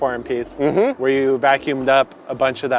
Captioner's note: affirmative humming